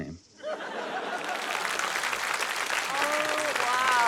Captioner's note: laughter, applause